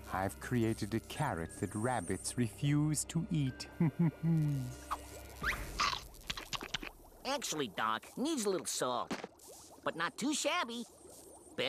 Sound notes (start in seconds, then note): 3.8 laughing; 5.4 munching